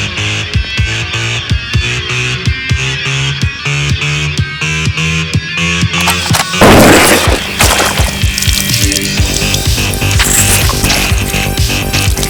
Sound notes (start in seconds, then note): 6.0 gun fires; 8.9 dramatic dance music